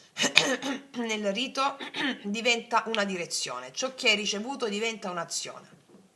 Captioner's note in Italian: schiarire la voce